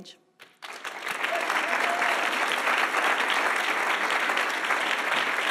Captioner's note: audience applauding